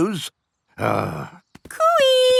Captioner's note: grumbles